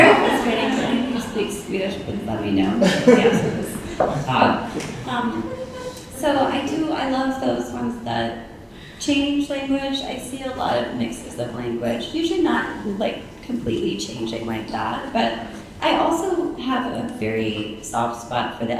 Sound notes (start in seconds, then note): 0.0 audience laughing; 3.4 audience chuckling